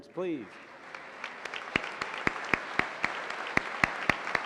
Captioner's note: applause